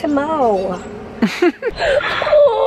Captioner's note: chuckles